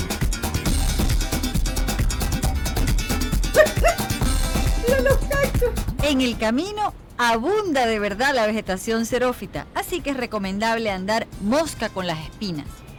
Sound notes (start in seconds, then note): 3.4 laugh